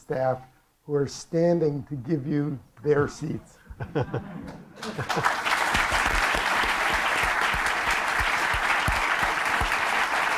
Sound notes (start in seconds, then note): 4.8 applause